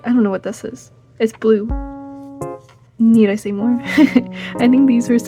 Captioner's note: chuckles